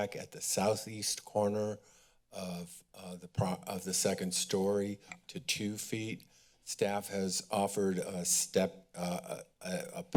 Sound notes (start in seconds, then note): none